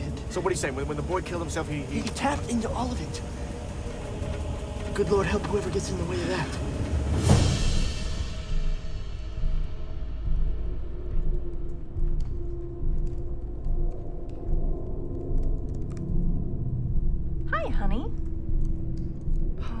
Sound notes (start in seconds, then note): 7.4 impactful music; 12.9 keyboard clicking